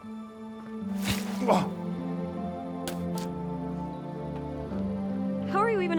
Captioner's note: gentle music; Walter gasps